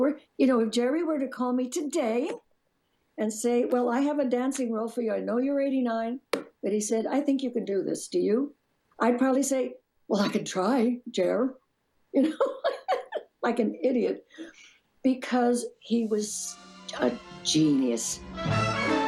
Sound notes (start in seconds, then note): 12.2 laughs; 18.8 bright music